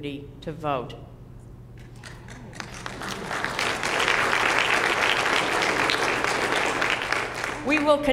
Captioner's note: applause